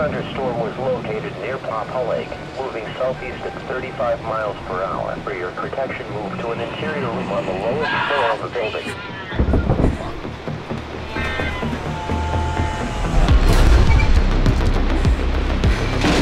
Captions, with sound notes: - [Radio Announcer] A severe thunderstorm was located near Pampole Lake moving southeast at 35 miles per hour. For your protection, move to an interior room on the lowest floor of the building. (woman screaming) (cat screeching) (loud knocking) (rhythmic music)